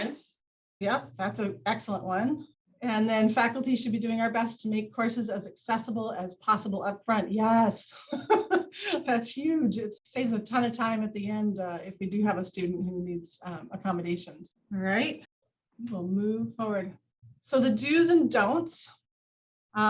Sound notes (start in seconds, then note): 8.1 laughs